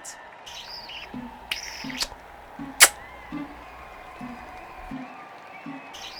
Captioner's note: kissing sounds